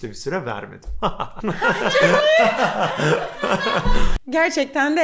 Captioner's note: laughter